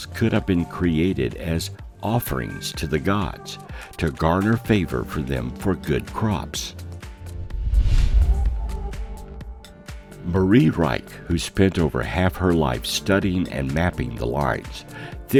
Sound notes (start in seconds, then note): 7.1 air whooshing